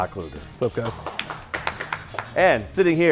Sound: chefs clapping

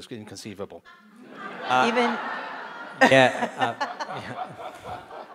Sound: audience laughing

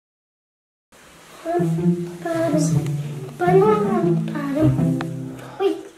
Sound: making pretend music sounds

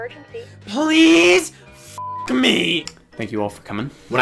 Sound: beep

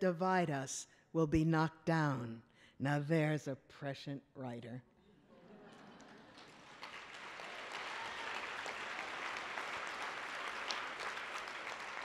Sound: applause

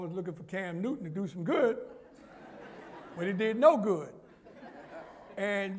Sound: laughter

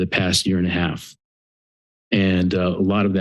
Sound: pause

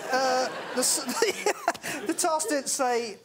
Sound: chuckles

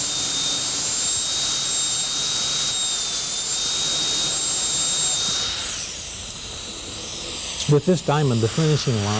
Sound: drilling continues

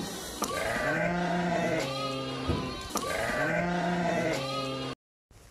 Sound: lamb sheep bleating sounds meeee meee meee

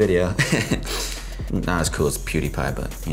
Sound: laugh

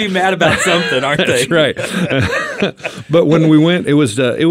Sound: group laughing

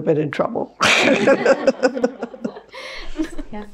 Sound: laughter

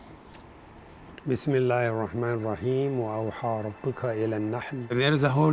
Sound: speaks Arabic

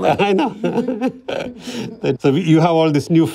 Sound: laughter

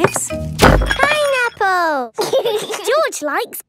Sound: bangs; laughs

